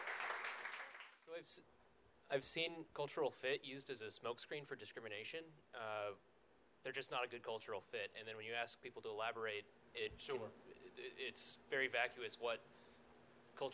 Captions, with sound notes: - [Voiceover] So I've seen cultural fit used as a smokescreen for discrimination, "They're just not a good cultural fit", and then when you ask people to elaborate it's very vacuous what cultural fit can mean.